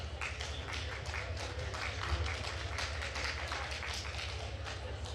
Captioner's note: attendees applauding